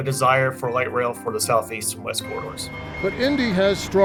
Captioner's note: signal beeps